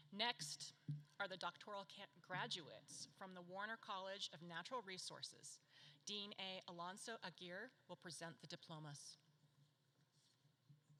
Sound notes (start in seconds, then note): none